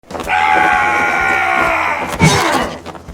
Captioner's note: yelling